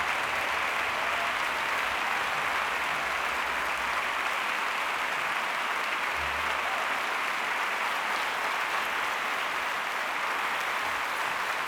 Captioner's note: applause